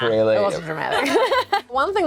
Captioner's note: laughs